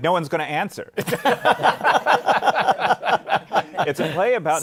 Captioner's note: laughter